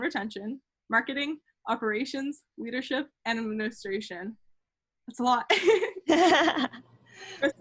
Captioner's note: laugh